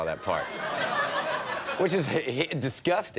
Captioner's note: audience laughing